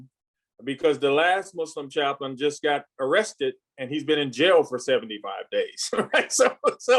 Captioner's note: laughs